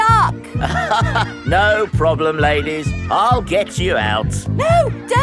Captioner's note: chuckles